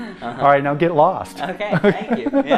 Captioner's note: laughs